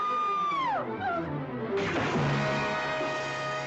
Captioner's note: screaming